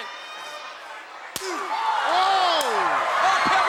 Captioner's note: blows thudding